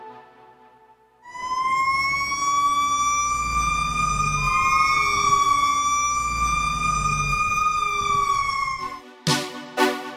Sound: siren wailing

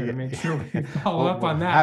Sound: laughs

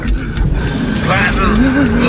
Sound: coarse Voice

